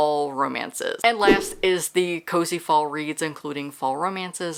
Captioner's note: whoosh